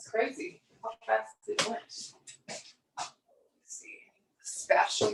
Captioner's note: murmurs